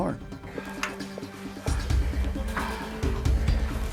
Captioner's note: panting